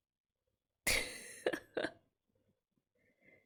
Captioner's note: laughs